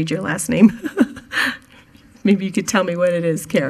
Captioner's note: chuckles